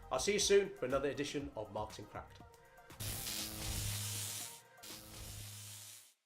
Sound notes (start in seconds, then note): 2.9 upbeat music; 3.0 electricity buzzing